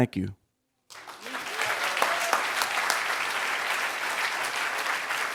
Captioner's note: crowd applauding